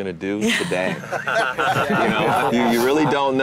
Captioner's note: lalaugughthterer